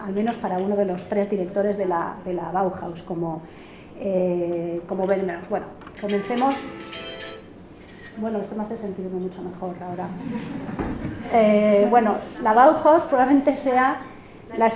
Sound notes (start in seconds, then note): 6.0 mobile phone ringing; 10.2 laughs